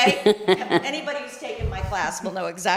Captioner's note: chuckle